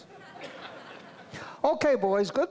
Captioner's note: audience laughs